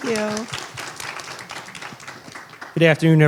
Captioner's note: applause